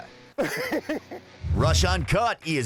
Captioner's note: men laughing